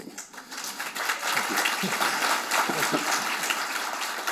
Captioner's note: audience applauding